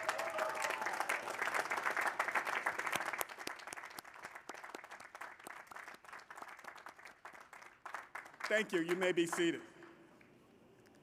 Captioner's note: applause